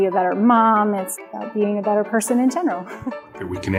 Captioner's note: laughs